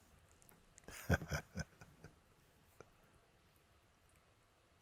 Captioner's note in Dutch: Mooji lacht